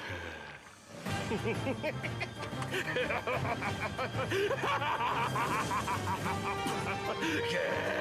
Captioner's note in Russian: истеричный смех